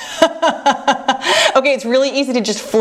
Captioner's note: laughs